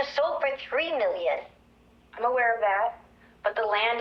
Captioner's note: on voice record